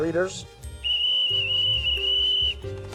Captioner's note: Fluit